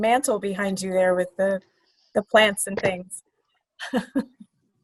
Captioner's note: laughs